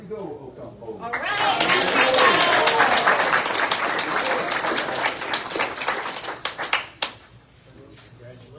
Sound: audience cheers and applauds

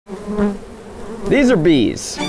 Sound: bees buzzing

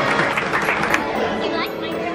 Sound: instrumental music; patrons applaud

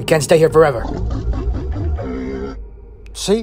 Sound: bumpy sounds

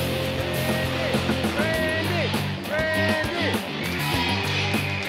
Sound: crowd

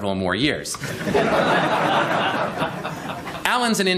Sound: laughter

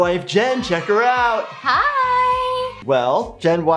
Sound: crowd cheering

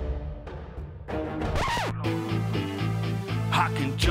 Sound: dramatic music; disc scratches; upbeat music

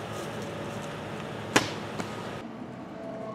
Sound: object hits ground; car skids and drives away

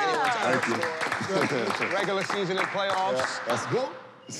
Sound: applause

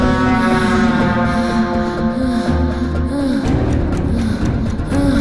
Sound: sighs

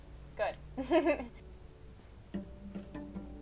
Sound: laughing; cello music

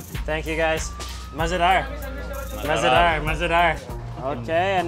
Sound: speaking in foreign language

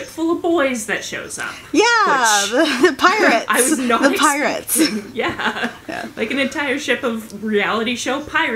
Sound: laughter

